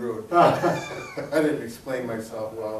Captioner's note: both laughing